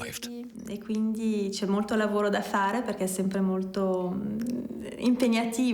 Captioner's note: speaks in foreign language